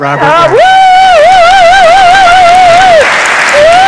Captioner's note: cheers